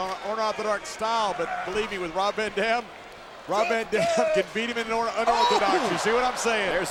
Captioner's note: laugh